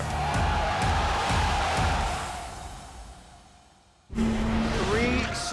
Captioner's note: crowd cheering